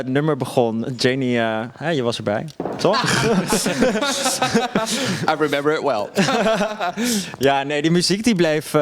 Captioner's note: laughs